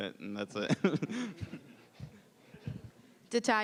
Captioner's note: laughing